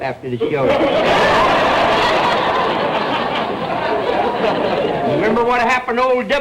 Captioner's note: audience laughter